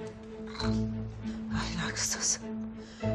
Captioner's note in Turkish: Fısıltıyla